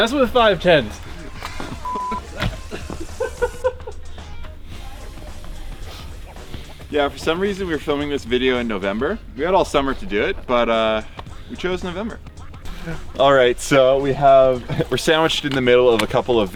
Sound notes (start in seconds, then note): 0.0 gentle music; 1.8 beep; 3.3 riders laughing